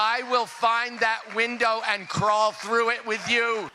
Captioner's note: cheering